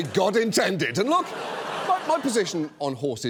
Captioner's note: audience laughs